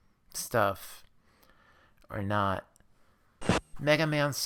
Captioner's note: static